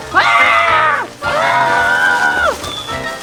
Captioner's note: roars